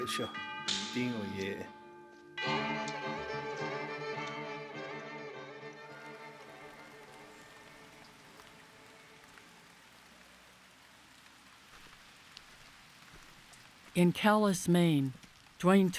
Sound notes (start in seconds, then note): 0.1 speaking Navajo; 5.9 rain falling